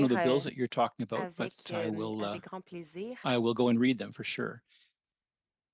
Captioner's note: speaking French